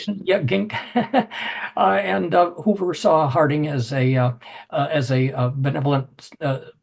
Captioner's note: laugh